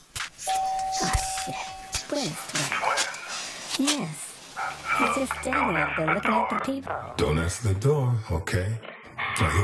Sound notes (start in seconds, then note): 0.4 cellphone